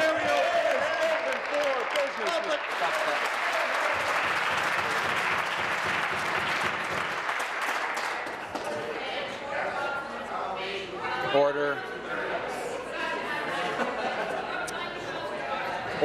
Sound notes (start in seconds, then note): 6.5 applause